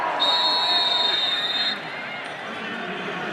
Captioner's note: whistle blowing